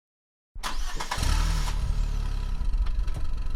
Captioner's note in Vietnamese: Xe khởi động